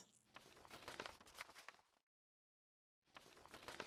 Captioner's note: paper crinkles